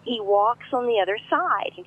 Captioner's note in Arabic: none